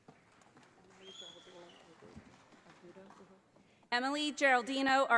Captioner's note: audience applauding